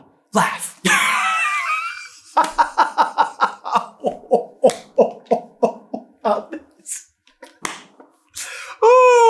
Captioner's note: hysterical laughter